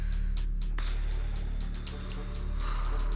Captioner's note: sighs